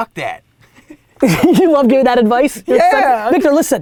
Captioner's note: laughs